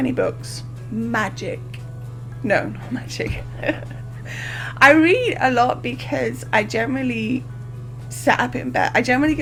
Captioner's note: laughs